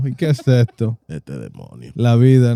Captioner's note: speaking In Foreign Language